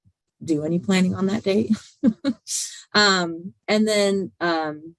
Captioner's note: laughs